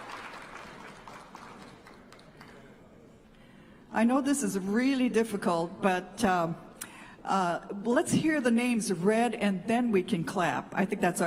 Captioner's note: applause